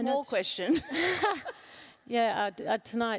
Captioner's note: laughs